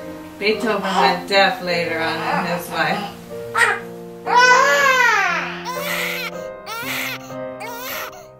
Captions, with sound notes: Beethoven went deaf later on in his life. (baby wailing loudly)